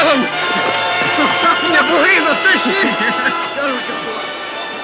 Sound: laughter

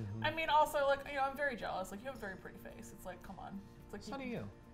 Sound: none

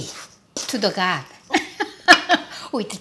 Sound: laughs

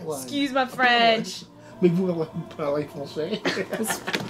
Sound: speaks French; laughs

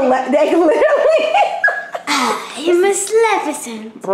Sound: laughter

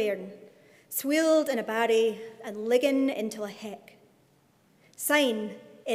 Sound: speaking in Scots

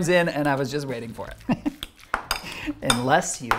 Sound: chuckles

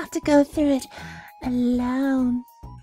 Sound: sultry

